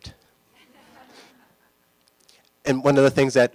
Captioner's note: laughter